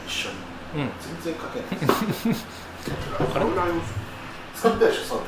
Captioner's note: laughs